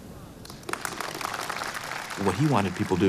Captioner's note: applause